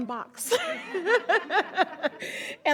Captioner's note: all laugh